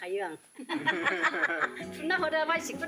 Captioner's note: laughter!!